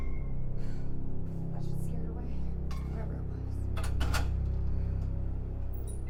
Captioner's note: sighs